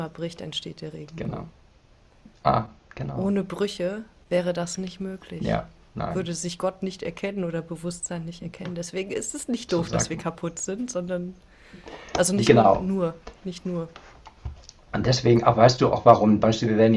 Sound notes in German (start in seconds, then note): none